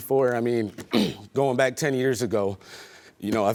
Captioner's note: clears throat